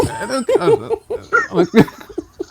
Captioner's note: laughing